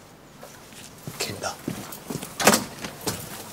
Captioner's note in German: murmelt